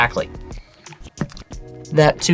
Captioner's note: taps table